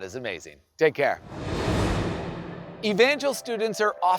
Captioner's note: air whooshing